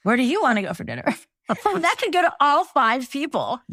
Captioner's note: laugh